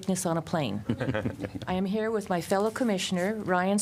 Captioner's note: laughter